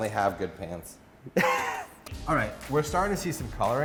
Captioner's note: laughs